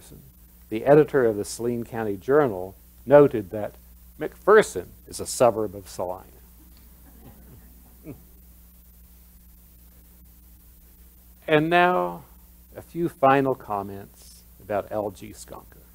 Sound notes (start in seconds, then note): 7.0 laughter